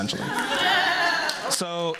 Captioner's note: laughter